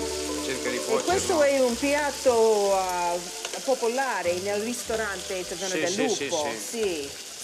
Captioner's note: speaking Italian